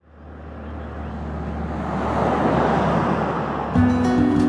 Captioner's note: car passing